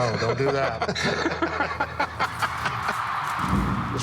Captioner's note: laughter